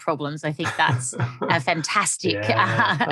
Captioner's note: laughing